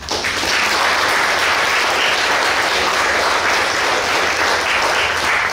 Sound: clapping

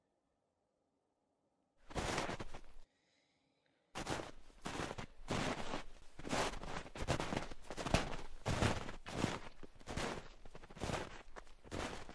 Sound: walking in snow

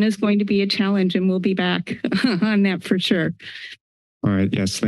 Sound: laughs

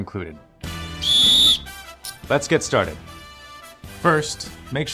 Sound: whistle

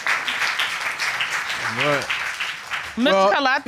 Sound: audience clapping

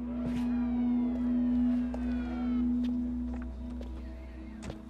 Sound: siren

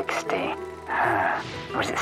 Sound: heavy & exasperated sigh

